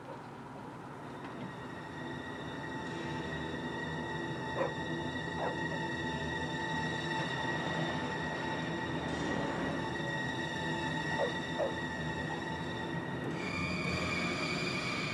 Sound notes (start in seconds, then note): 5.4 dog barking